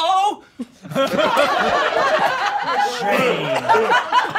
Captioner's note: all laughing